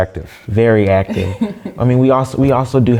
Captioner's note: laugh